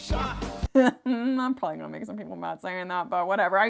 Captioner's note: laughs